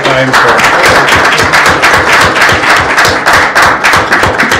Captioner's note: applause